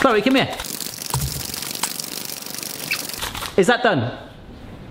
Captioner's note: sped up cracking; egg continues cracking